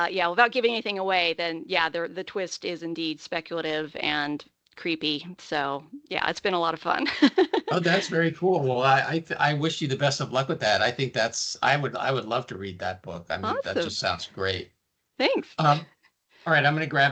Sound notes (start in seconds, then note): 7.1 laughing